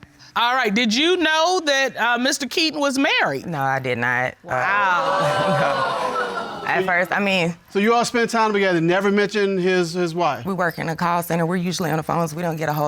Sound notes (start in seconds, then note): 4.8 audience gasps